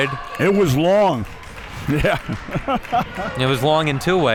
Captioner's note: chuckles